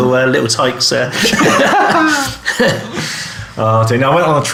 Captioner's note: laughing